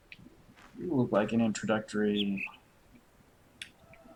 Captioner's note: bird chirps high-low